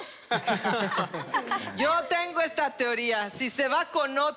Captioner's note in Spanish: Risas